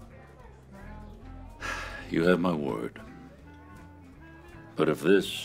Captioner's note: sighs